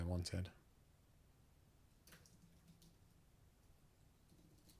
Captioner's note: silence